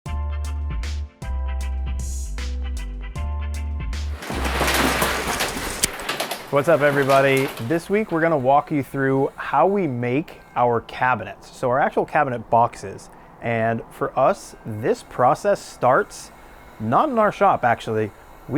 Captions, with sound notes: (upbeat music) (door rattles) - What's up, everybody? This week, we're gonna walk you through how we make our cabinets, so our actual cabinet boxes, and for us, this process starts not in our shop actually,